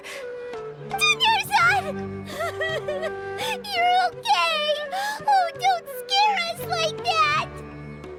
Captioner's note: sniff